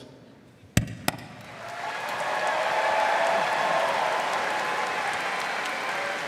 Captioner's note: audience cheering and applauding